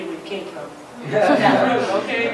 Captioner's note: laughter